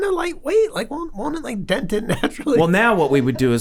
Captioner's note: chuckles